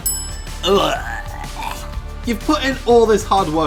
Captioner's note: bellows